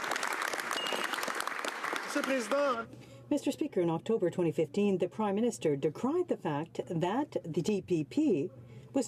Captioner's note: some applause